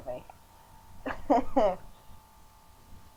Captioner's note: chuckling